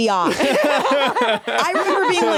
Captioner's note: laugh